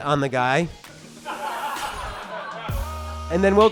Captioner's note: audience laughter